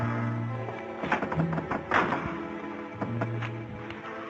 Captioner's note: knocking